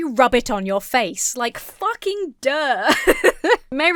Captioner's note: laughs